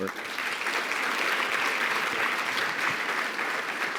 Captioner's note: audience applauds